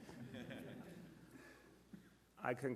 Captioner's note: laughter